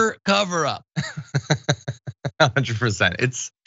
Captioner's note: laugh